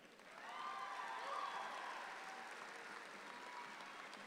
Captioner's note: audience applauds